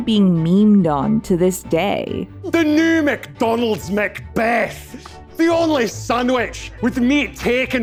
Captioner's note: in a thick Scottish accent